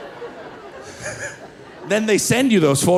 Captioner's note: laughing